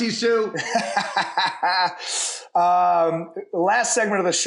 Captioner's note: laughter